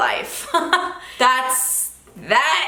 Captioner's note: giggles